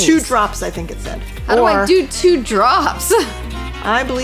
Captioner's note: laughing